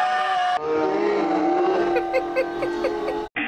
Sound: screaming continues in slow motion; laughing

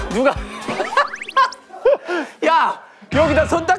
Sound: burst into laughter

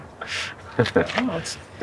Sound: chuckles

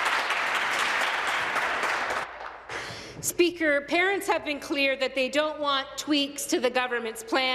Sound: applause

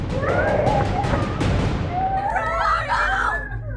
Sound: Sandra screams and Crowley snarls

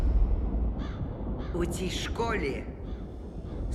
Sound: bird caws

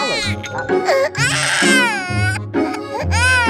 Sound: baby Cries; baby Cries More

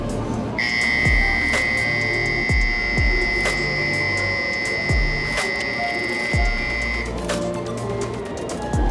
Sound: buzzer

